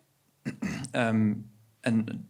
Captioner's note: clears throat